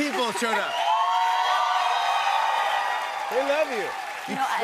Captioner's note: cheers and applause